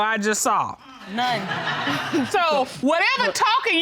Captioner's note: laughter